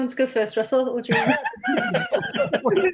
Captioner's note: laugh